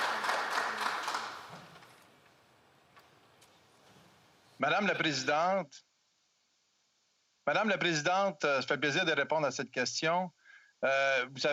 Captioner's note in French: applaudissements